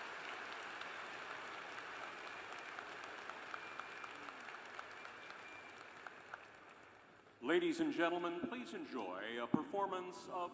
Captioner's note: cheers and applause